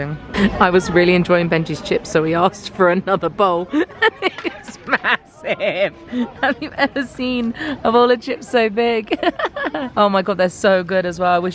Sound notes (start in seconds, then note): 3.6 laughs; 9.1 laughs